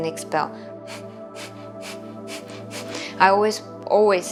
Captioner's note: inhaling; exhaling